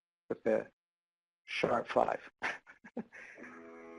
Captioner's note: laughs; electronic music